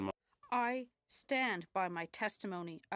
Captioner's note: speaking French